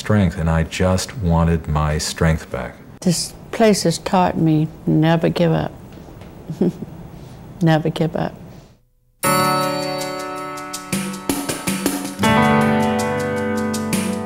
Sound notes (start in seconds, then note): 6.5 snickers